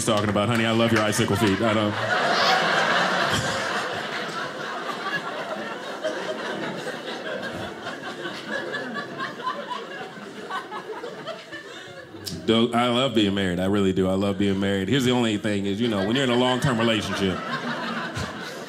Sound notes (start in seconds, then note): 2.4 audience laughing